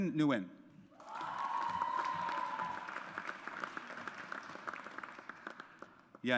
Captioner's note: audience applauds